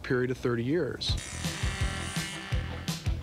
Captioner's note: saw whirring